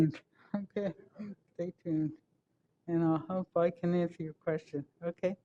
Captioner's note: off microphone